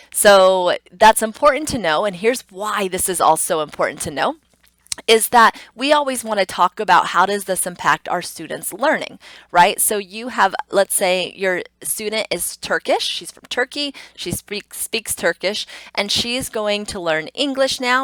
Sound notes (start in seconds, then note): 4.7 tongue clicks